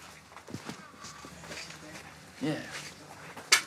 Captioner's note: men speaking faintly